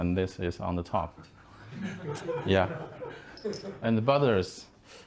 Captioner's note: laughing